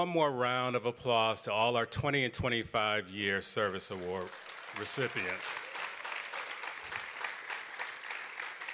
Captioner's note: applause